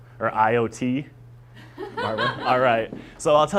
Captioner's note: laugh